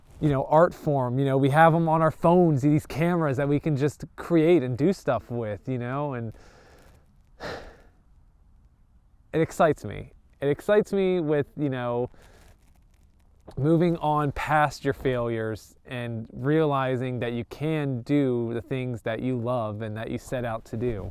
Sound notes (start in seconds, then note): 7.4 sighs